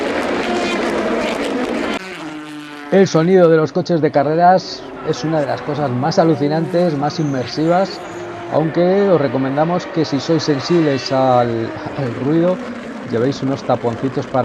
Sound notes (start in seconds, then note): 3.5 engines